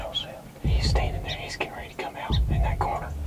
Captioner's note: whispering